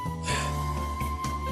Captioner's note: puff